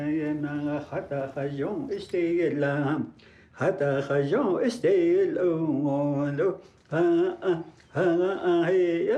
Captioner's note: chanting